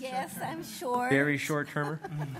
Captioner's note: laughing